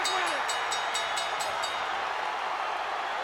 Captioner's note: bell Chimes; crowd Cheering